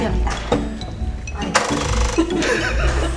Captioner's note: vibrating